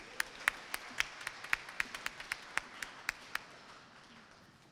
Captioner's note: applause